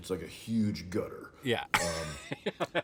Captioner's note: laughing